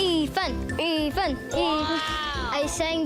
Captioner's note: chanting